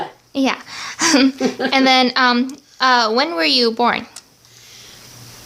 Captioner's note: awkward laugh again